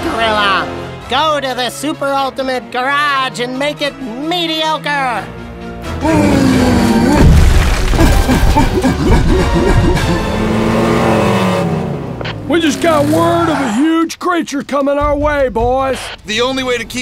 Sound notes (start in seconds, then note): 6.0 roaring; 11.1 engines roaring